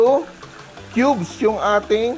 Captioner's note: sizzle